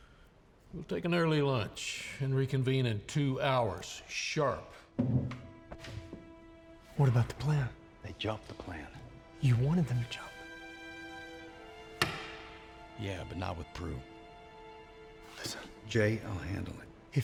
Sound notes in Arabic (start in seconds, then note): 11.6 طقطقة خاتم الزواج; 14.1 همسات